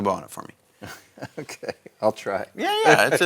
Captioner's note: laughs